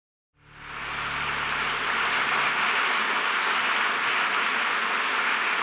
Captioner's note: audience applause